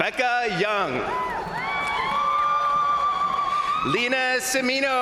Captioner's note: crowd cheering; crowd applauding